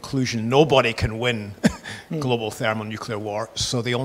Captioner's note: laughs